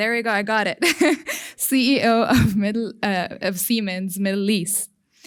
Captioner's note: chuckles